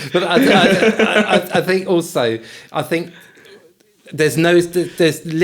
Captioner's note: laughing